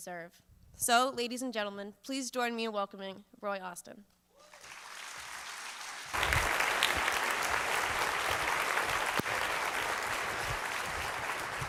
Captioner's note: applause